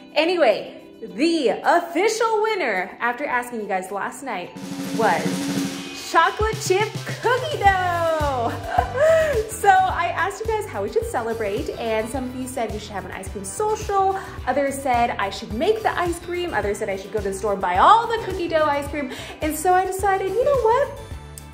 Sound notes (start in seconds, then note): 4.5 drum roll; 8.0 upbeat music; 8.3 laughs